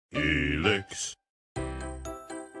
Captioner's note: deep Voice; enthusiastic music